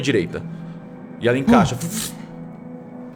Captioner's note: fluttering